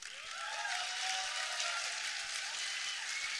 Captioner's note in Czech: potlesk